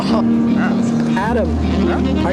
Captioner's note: satisfied Pizza noises